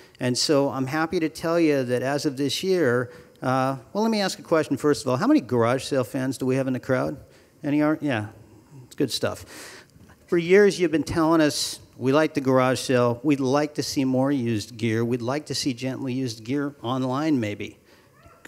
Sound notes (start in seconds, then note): none